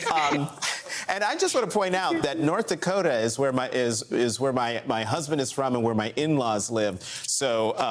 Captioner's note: laughter